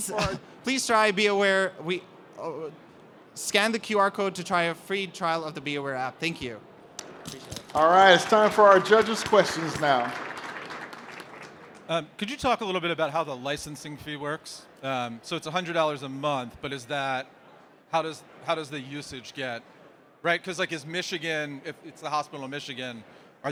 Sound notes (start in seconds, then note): 7.7 applause